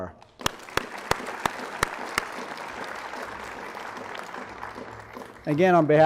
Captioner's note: applause